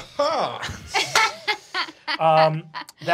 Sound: laughing

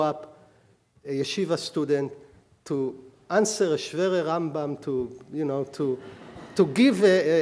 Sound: speaking hebrew

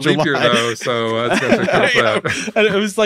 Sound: hosts laughing

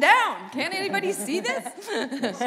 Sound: laughter

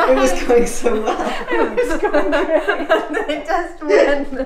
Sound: laughing

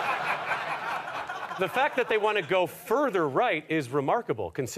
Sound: audience laughter

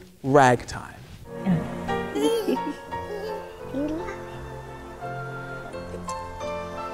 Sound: gentle piano music; baby giggling

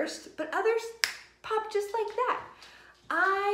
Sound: fingers snapping

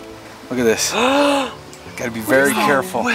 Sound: man gasps

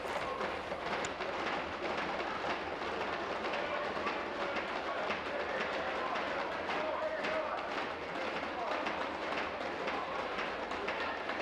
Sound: tapping on desks

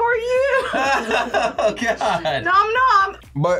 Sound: laughs

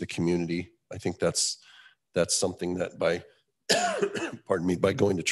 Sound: coughs

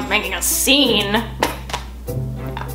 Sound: scoffs

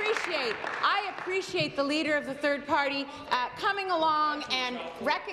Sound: applause

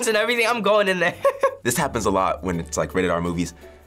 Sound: laughs

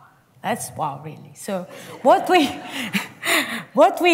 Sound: laughter

